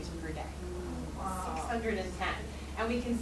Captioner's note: people murmur